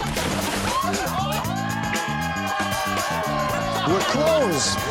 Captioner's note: cheering